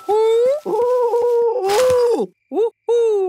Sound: cooing

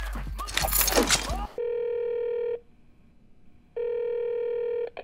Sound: line ringing

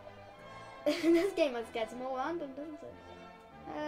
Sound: laugh

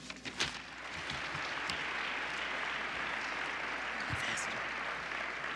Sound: applause

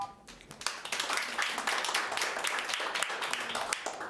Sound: audience applauding

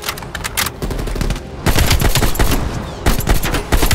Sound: gunshots

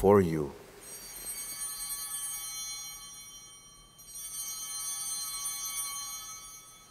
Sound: chimes ringing

